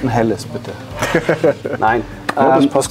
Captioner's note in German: lachen